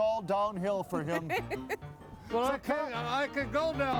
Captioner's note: laughing; jaunty piano music